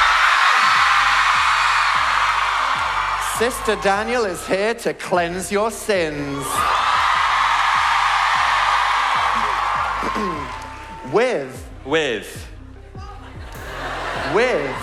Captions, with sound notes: *screaming* Sister Daniel is here to cleanse your sins *cheering* - With. With with.